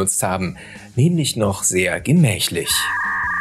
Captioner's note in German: Modem-Geräusche